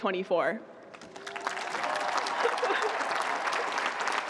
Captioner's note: cheering